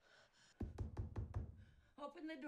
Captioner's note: knocking